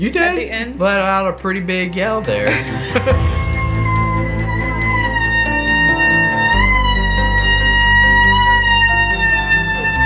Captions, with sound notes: - You did! - At the end, - Let out a pretty big yell there. (laughs) (screaming)